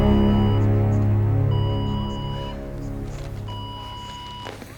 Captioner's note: fax machine beeping